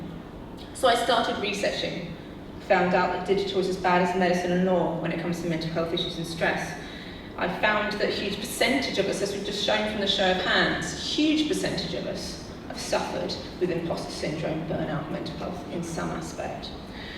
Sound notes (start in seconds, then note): none